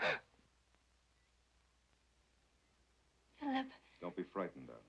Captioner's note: Sheila gasps